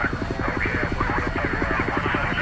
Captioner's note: helicopter radio chatter